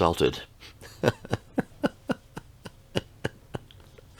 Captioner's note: laughs